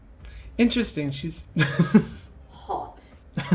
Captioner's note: laughs